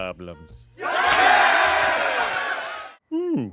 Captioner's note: cheering